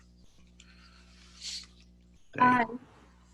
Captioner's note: silence